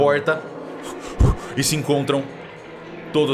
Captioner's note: huffs